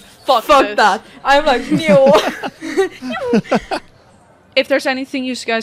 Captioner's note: laughter